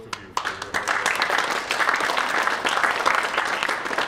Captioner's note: applause